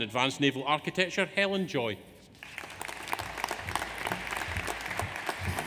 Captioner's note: audience applauds